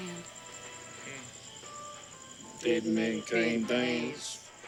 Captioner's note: both With Southern Accent